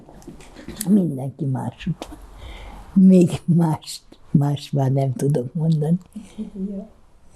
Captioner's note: laughing